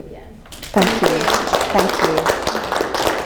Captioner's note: class claps